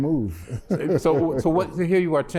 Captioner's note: laughter